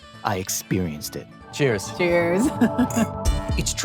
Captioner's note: chuckles